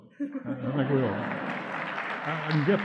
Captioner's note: audience laughs